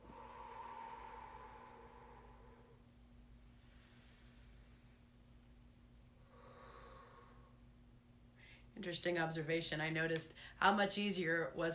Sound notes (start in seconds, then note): 0.0 exhaling; 4.2 inhaling; 6.2 exhaling